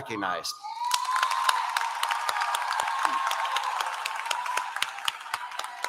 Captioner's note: applause